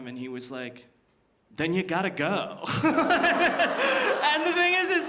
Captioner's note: laughs